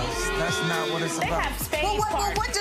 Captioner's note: gallery boos